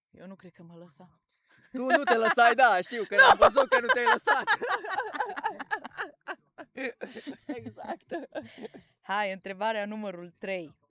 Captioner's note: laughs